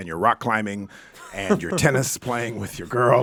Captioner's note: laughing